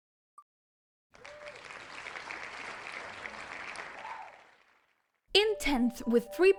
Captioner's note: canned Cheering